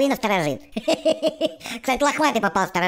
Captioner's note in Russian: смеется